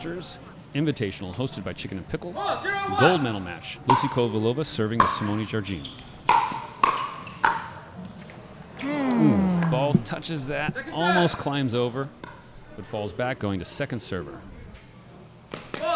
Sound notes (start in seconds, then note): 6.2 ball bouncing; 8.8 disappointed groans